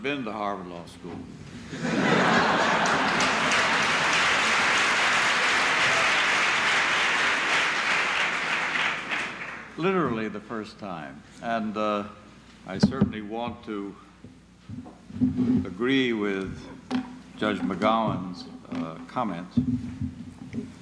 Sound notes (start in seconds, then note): 1.6 laughter